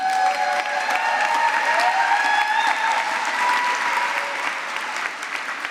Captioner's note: applause